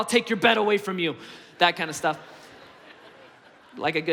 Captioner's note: congregation laughs